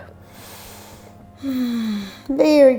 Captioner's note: inhales and exhales